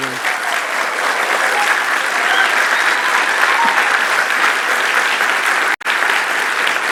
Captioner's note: audience applauding; audience cheering